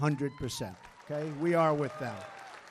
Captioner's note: applause